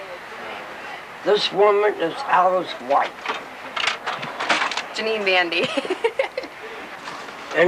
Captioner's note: laughs